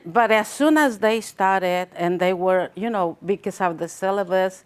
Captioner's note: none